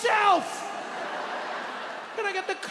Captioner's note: audience laughs